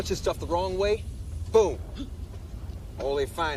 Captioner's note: gasps